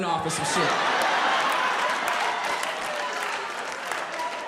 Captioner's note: audience laughs